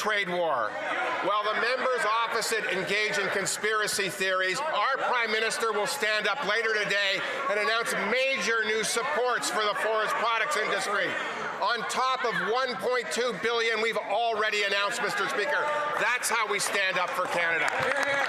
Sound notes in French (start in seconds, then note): 1.5 voix de l'interprète